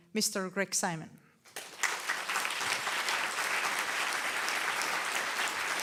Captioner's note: audience applauding loudly